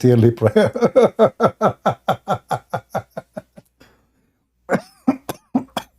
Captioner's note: Ketawa